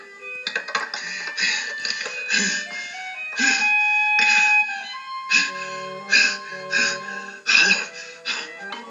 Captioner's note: panting